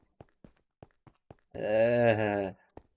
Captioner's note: groans